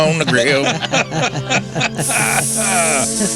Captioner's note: laughter